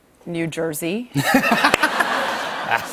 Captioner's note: laughter